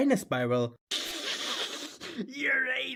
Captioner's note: chuckles